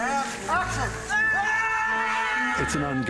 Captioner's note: screaming